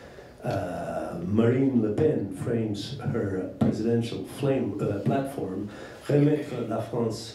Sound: french

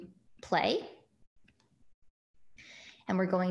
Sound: mouse clicks

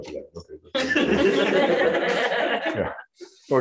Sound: audience laughs

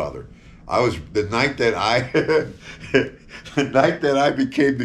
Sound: laughing

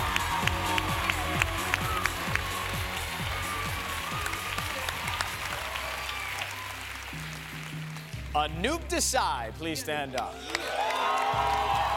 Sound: cheers and applause

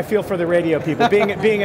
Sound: laughs

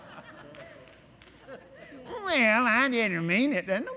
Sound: laughter

